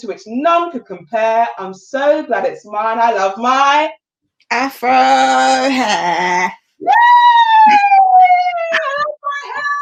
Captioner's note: cheering